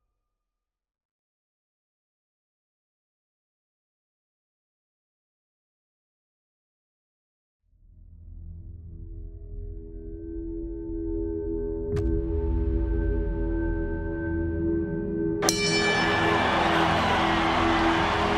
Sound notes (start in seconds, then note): 15.4 crowd cheering; 15.4 dings